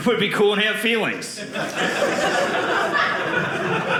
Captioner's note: audience laughing